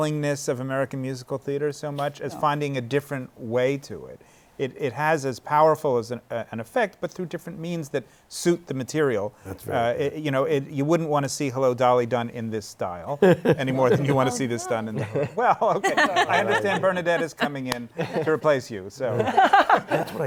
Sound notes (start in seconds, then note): 13.2 chuckles; 19.1 laughter